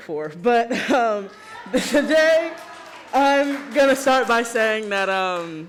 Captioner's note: chuckles